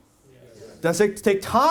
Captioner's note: audience says yes